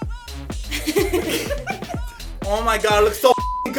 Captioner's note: laughter